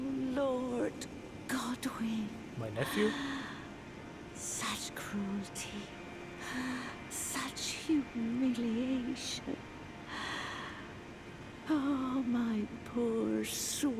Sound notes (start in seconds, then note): 2.8 desolate breath in; 9.8 another desolate breath in